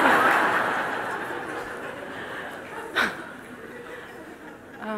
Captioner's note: laughter